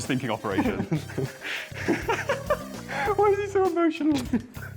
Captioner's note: laughter